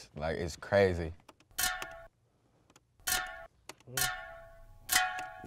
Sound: metal clanking

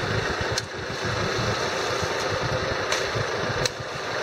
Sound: whacking

